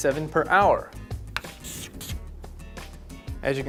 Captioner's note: chalk scribbling